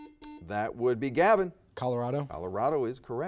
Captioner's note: buzzer dings